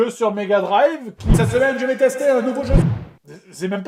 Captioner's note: echoing